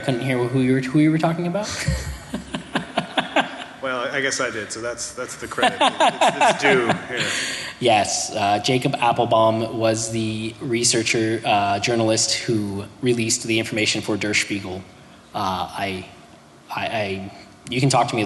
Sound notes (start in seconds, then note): 1.6 laughter